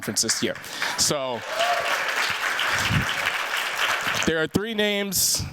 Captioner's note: cheers, applause